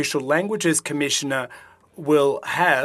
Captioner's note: speaking French